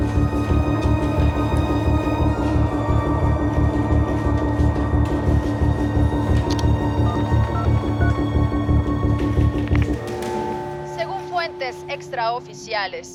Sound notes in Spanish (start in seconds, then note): 8.0 Sonido al marcar; 10.3 Voz en la TV